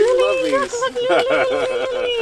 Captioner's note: laughter